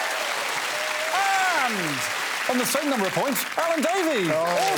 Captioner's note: applause